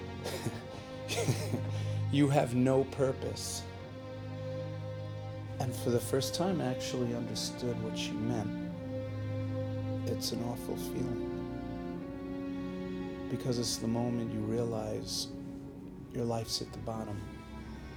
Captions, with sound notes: (laughing) "You have no purpose." And for the first time, I actually understood what she meant. It's an awful feeling, because it's the moment you realize your life's at the bottom.